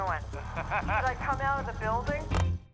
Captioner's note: Jerry laughs